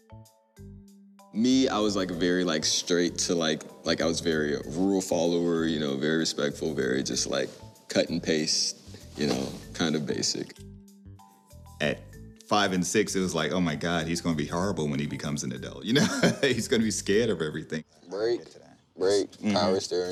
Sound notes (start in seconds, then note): 15.9 laughs